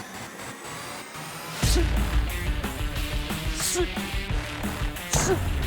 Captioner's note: grunting